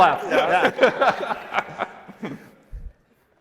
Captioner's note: laughing